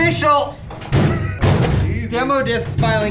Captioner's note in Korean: 쿵쾅!